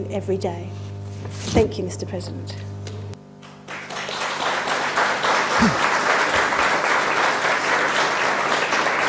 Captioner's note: applause